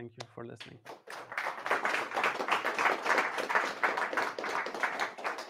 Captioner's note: audience applauding